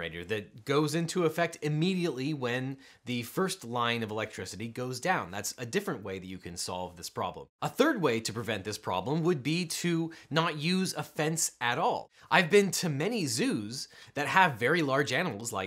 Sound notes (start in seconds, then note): none